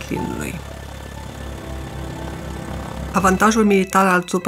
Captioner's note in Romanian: motor avion în zbor